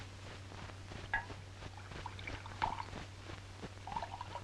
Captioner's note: liquid splashing